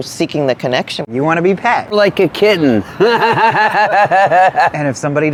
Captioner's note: laughs